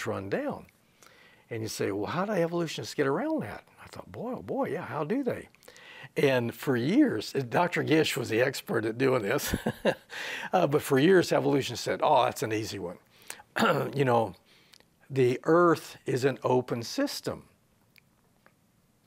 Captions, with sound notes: AND YOU SAY, "HOW DO EVOLUTIONISTS GET AROUND THAT?" AND I THOUGHT, "BOY OH BOY, YEAH HOW DO THEY?" AND FOR YEARS, DR. GISH WAS THE EXPERT AT DOING THIS [he laughs] BUT FOR YEARS EVOLUTIONS SAID, "AH THAT'S AN EASY ONE, [he clears his throat] YOU KNOW, THE EARTH IS AN OPEN SYSTEM." WHAT DOES THAT MEAN?